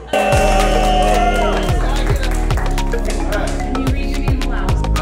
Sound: crowd cheering

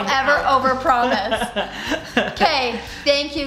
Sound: laughing

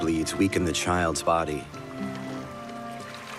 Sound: water lapping

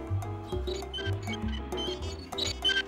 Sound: tires squeaking

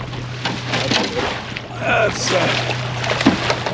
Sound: fish splashing

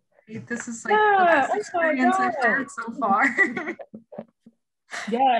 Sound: all laughing

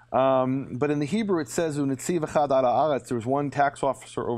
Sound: speaking in Hebrew

